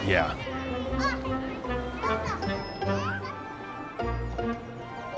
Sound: children talking

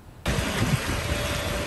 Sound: alarm, banging

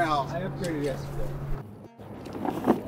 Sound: speaks in low tones

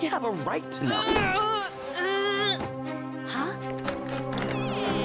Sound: grunting; tense music

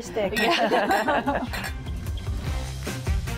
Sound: laughter

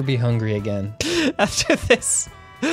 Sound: laughing

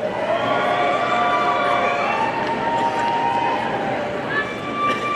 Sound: audience cheering

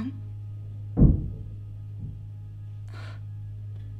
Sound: bang

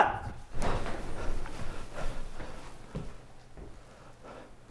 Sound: deep breathing

